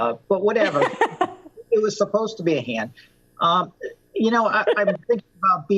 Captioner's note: laughter